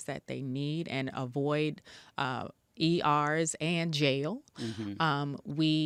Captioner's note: mmhmms